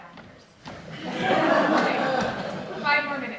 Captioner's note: audience laughs